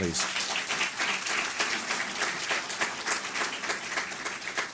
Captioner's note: audience applause